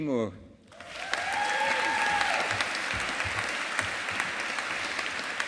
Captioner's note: audience applauding